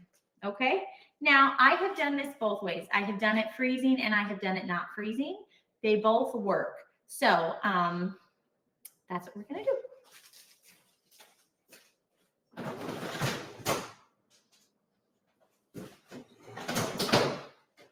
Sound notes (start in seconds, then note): 10.6 footsteps thumping; 10.6 freezer rattling